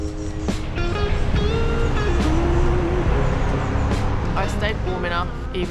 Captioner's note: garbage truck